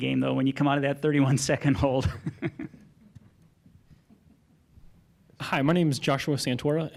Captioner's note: laughter